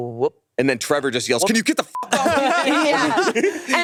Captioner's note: beep